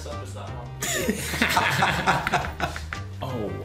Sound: laughing

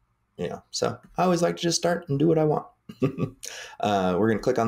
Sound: chuckles

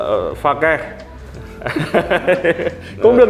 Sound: laughing

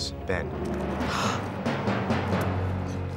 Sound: gasp

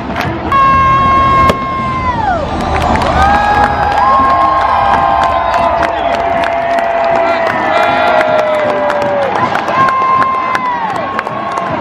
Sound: cheering

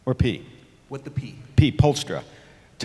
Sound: voiceover

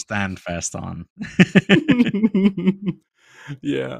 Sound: laughter

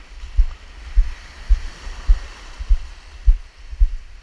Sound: waves crashing

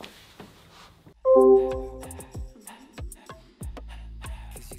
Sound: logoff ping

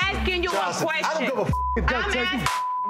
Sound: beep

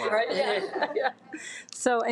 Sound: laughs

